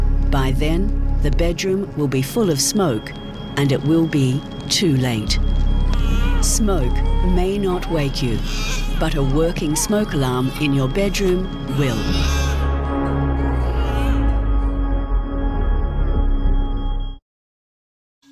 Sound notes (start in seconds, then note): 12.6 baby crying loudly